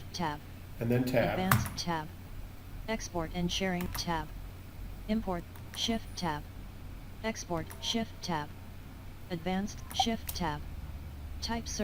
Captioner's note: sound of screenreader